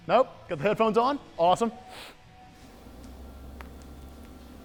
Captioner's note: sniffs; quiet cracking